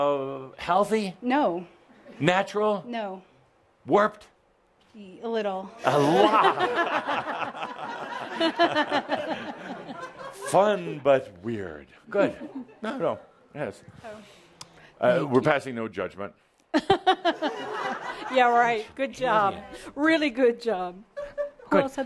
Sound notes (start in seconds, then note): 8.8 laughter; 16.4 giggling